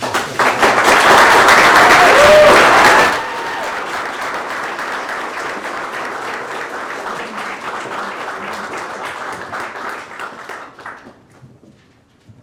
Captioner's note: applause